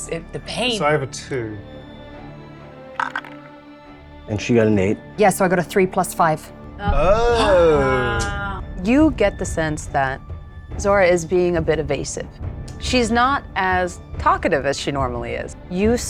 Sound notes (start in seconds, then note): 2.9 dice rolling